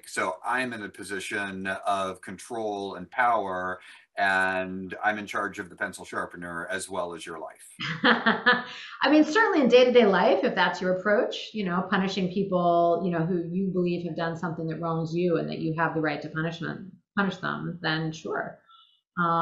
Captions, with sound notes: So, I'm in a position of control and power, and I'm in charge of the pencil sharpener as well as your life. - (laughing) I mean, certainly in day-to-day life, if that's your approach, you know, punishing people, who you believe who've done something that wrongs you and that you have the right to punish them, then sure.